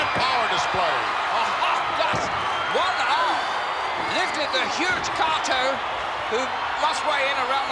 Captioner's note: laugh